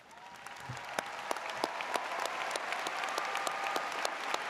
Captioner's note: audience cheers